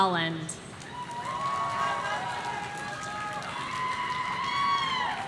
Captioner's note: audience cheering